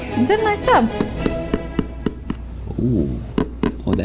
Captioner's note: hollow knocking